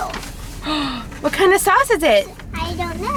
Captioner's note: gasps